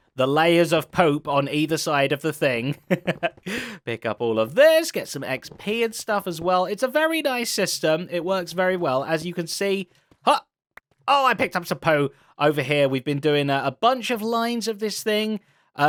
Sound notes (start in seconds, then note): 2.7 laughs